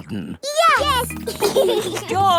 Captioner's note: giggling